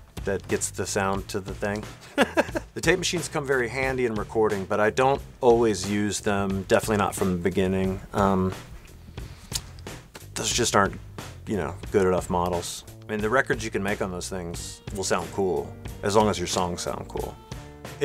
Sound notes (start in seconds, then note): 2.0 laughter